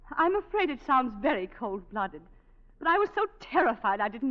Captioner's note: none